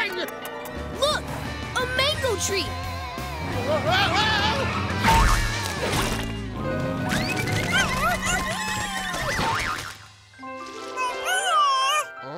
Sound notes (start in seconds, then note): 7.0 squeaking; 10.9 squeaking